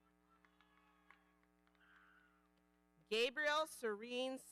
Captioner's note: audience applauding